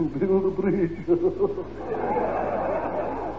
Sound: audience laughter

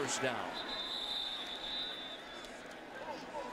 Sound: whistle

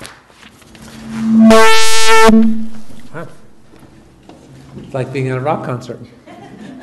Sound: microphone squeals; audience chuckles

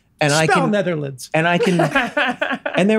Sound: laughs

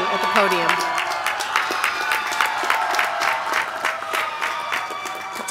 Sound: applause

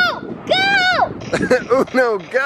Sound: laughing

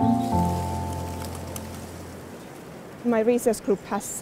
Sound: leaves rustling

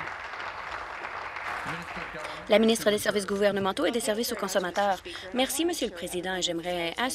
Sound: applause

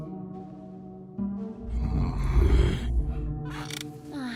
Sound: growls; sighs

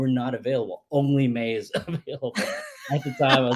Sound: laughs

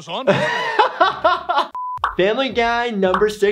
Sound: laughing

